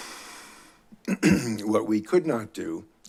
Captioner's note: clears throat